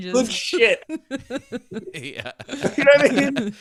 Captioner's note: laughing